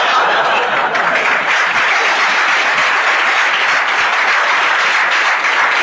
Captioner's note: laughter and applause